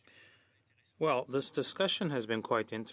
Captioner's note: speaking French